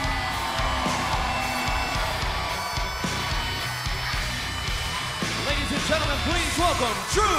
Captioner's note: cheers and applause